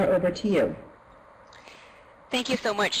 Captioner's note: voiceover